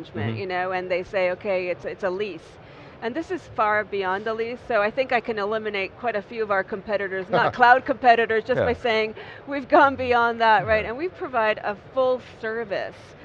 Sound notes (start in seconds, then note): 7.3 laughs